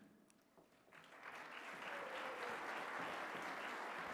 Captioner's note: applause